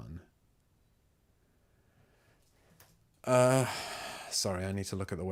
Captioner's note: silence